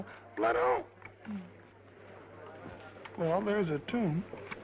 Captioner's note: attendees chattering